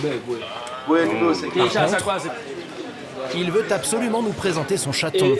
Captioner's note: French spoken audio